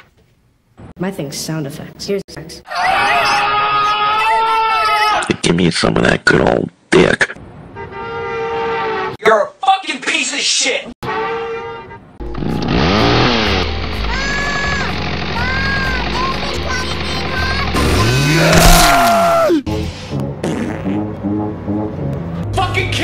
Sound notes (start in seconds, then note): 7.7 car horn doppler effect; 11.1 reverse car horn doppler effect; 12.3 chainsaw sound effect; 17.7 re4 chainsaw ganado scream with blood splatter; 20.3 shitty tuba playing; 20.4 farts